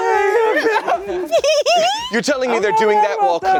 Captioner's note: giggling